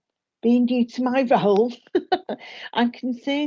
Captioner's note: chuckles